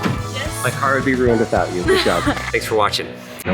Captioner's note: child laughs